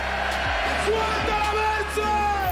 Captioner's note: shouts